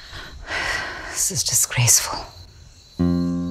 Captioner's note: Maya sighs